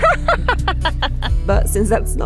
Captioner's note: laughing